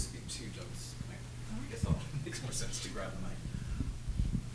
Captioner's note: speaking off mic